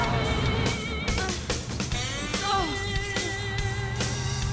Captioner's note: breathing heavily